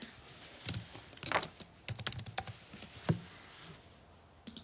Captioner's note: typing